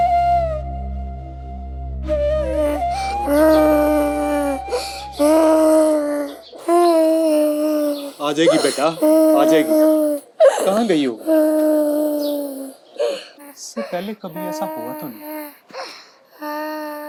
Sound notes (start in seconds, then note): 3.5 crying